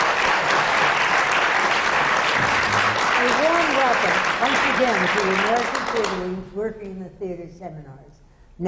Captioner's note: applause